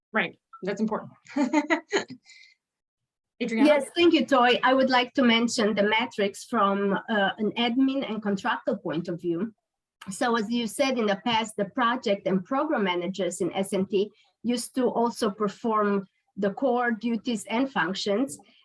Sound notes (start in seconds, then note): 1.4 laughs